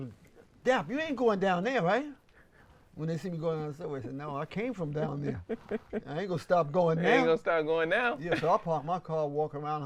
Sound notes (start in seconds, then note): 5.0 laughs